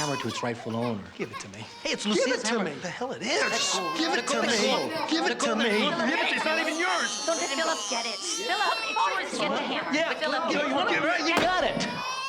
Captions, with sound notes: - I'm just returning the hammer to its rightful owner. - Give it to me. Give it to me! - Hey, it's Lucia's hammer. - The hell it is! Give it to me! - Let go! Let go! - Give it to me, give it-- it's not even yours! (overlapping chatter, children continue crying) - You want it? You got it!